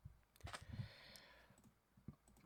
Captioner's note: inhale